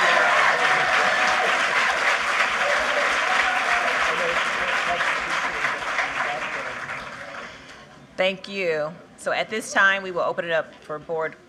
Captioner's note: cheers and applause